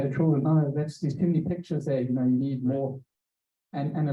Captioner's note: speaker muffled by microphone